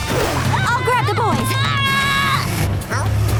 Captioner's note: screaming